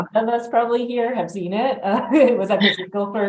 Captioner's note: chuckles